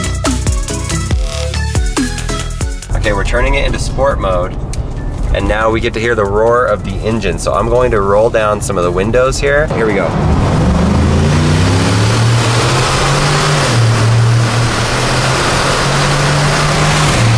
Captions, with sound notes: OK, we're turning it into sport mode, and now we get to hear the roar of the engines, so I'm going to roll down some of the windows here, here we go. (engine revs)